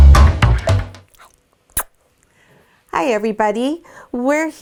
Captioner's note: kissing